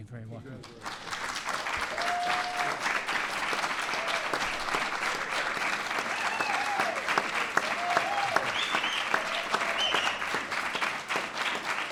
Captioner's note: applause